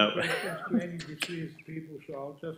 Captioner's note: laughing